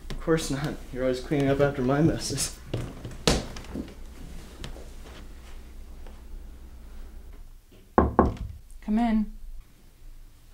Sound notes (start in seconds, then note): 7.9 knock